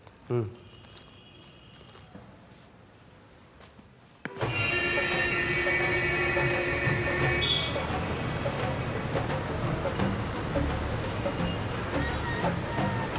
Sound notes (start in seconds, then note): 4.8 upbeat Indian music; 6.3 beeping